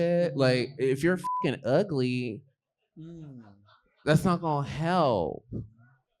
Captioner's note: beep